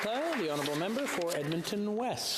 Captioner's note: applause